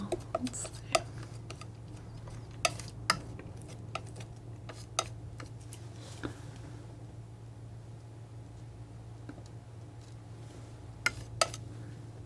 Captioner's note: tapping